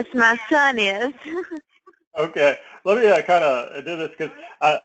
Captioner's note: laugh